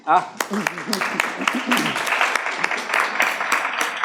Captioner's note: audience claps